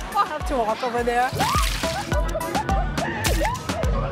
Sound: laughs

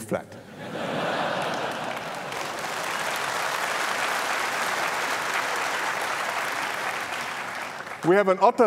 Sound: laughter and applause

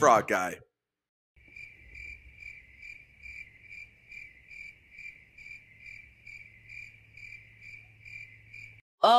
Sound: cricket Noises

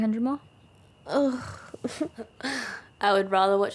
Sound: groans and giggles

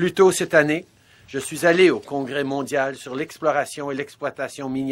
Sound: speaking French

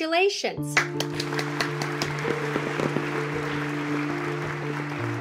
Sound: applause

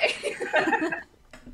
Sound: laughter

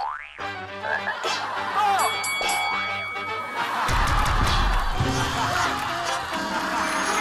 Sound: hahaha

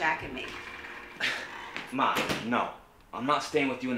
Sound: huffs

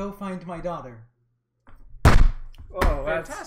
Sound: Andrixx slams on the bar

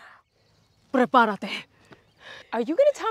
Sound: in Spanish

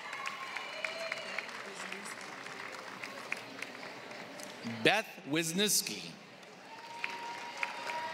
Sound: applause

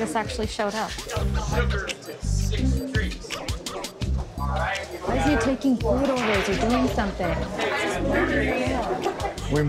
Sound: loud chatter

